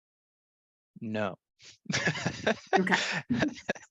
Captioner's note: laughs